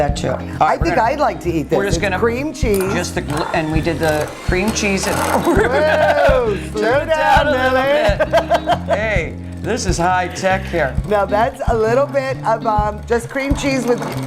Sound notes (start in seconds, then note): 5.6 laughing; 8.1 laughing